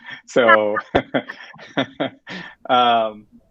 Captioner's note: laughter